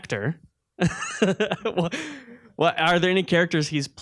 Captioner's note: laughing